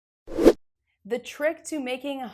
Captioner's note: graphic whooshes